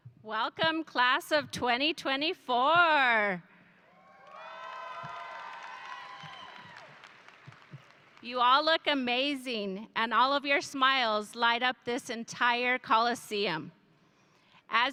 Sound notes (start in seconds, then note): 4.0 audience cheering